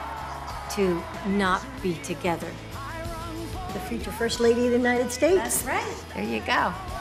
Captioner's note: applause